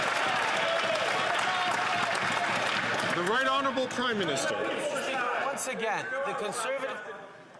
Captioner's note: cheers & Applause